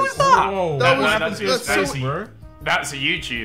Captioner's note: Sidemen chattering